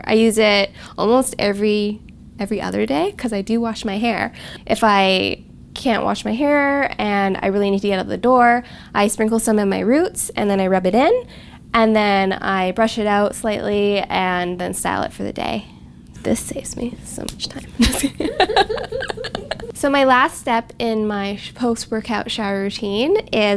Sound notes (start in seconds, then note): 17.7 laughing